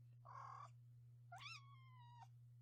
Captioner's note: mew